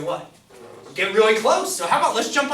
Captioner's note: voiceover